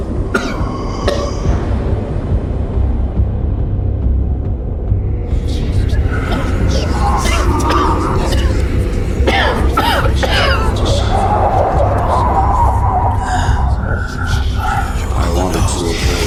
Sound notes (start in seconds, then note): 2.9 suspenseful music; 5.4 mysterious whispering; 7.4 Hawk coughing; 7.4 creatures whispering